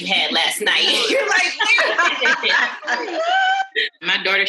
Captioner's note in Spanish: Risas